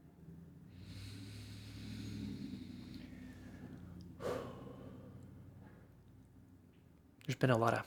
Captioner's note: inhales and exhales